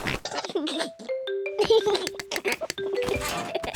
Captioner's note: giggles